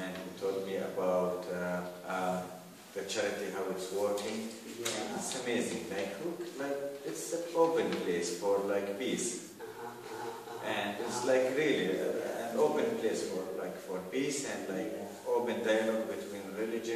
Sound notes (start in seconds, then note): 9.6 ahahah